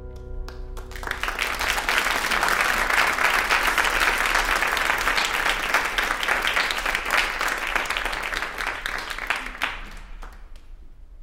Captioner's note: applause